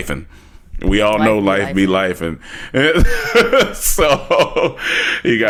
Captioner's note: laughs